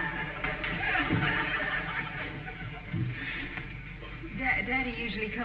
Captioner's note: audience snickering